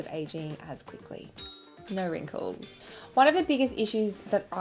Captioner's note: ding